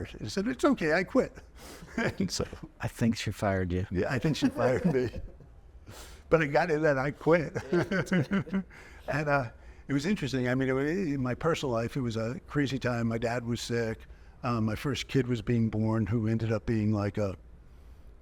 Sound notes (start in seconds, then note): 1.9 chuckling; 4.2 chuckling; 7.6 chuckling